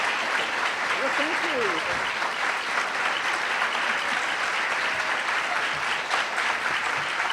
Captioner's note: audience applauding; audience applauding